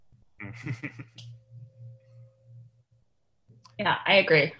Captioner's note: chuckles